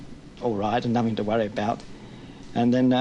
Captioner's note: none